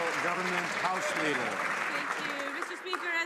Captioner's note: some Applause